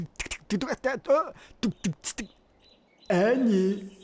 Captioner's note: beatboxing